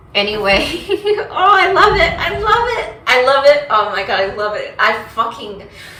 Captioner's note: laughs